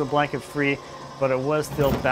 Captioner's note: engine whirring